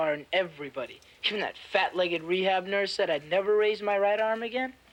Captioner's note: none